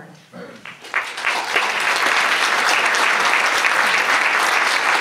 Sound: audience applauds

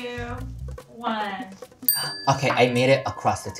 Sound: bell rings

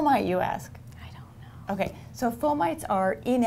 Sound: whispering

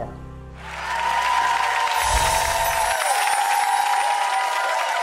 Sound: cheering and applause

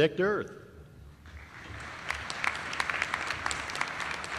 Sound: applause

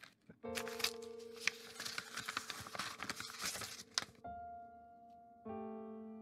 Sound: letter opening

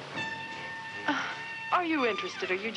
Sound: sighs

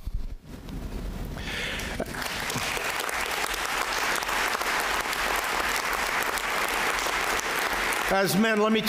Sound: applause

